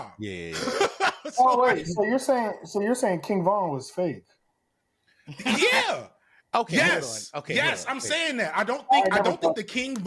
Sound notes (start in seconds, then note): 0.5 laughs